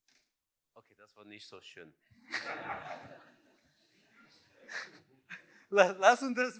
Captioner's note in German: Lacht